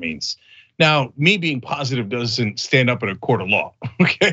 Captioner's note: laugh